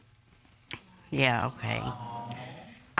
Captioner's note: audience exclaims